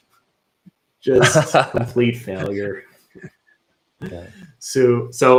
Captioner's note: chuckling